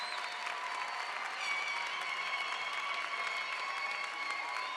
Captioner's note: audience cheers